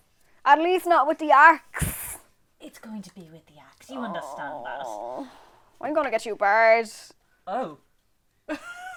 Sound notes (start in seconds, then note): 3.9 moans